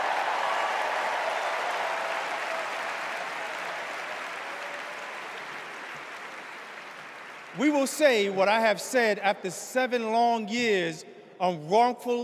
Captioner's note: cheers and applause